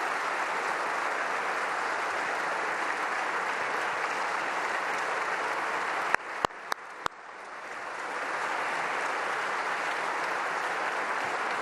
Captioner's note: applause